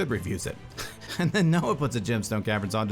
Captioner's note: laughing